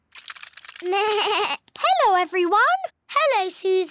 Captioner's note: bleats